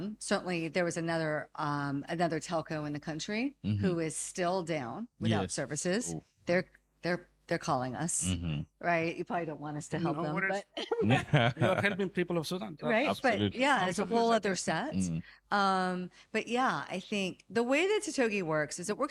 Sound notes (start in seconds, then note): 10.8 laughing